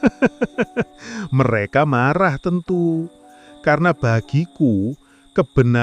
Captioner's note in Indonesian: tertawa